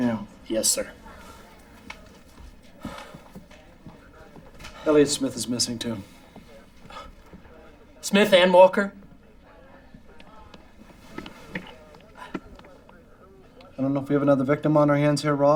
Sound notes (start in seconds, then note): none